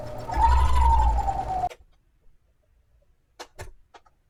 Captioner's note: machine humming